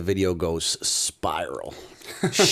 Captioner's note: chuckle